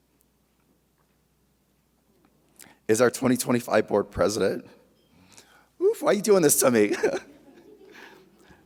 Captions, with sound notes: is our 2025 Board President. Oof, why you doin' this to me (chuckles).